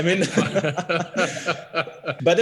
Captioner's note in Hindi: सब हँसते हुए